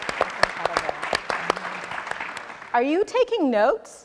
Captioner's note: audience and panelists applauding; faintly speaking